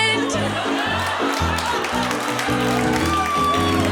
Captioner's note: applause